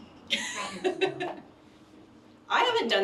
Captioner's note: laughs